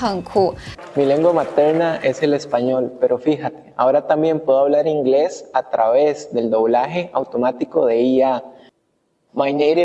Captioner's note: Spanish